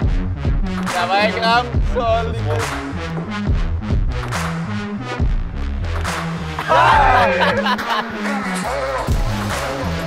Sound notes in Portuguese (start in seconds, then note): 6.6 Gritarias e risadas